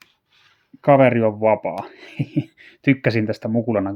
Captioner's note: he-he